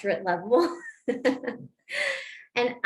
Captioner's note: laughter